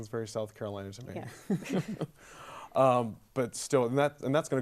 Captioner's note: laughs